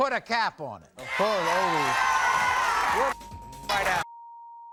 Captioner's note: applause